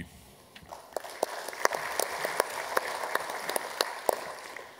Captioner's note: applause